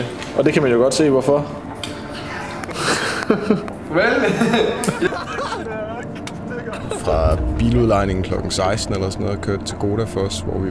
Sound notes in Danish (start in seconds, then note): 4.2 Laughing